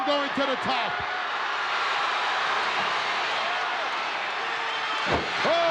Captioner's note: crowd cheering